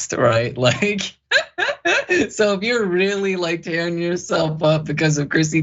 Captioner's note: laugh